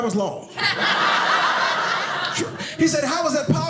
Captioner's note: audience laughing